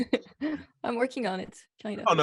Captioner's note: all laugh